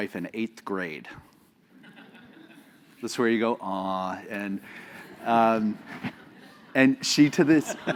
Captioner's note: laugh